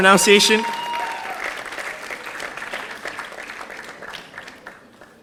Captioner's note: audience applauding